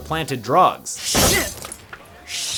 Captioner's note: glass breaking